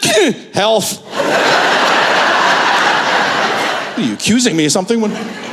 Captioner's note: laughter